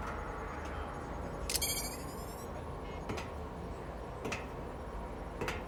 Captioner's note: electronic beeping